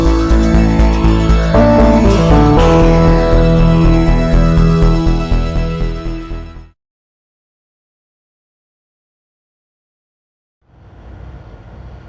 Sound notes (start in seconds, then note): 2.9 car engine